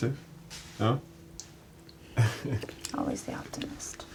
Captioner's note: Reed laughing